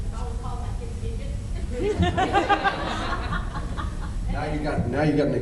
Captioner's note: laughs